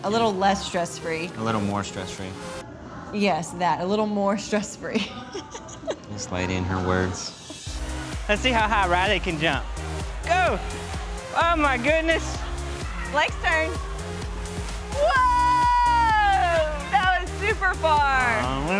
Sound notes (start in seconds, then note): 5.0 laughs